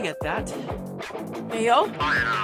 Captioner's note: intercom beep stops